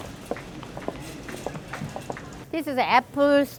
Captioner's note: footfalls